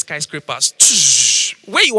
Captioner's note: sound effects